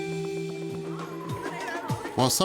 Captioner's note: upbeat music; siren ringing